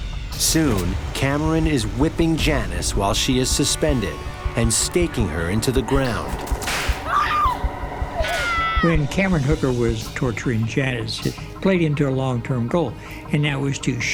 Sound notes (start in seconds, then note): 6.5 whip crack; 8.1 woman screams